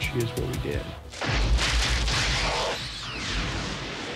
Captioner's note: machine whirring; explosion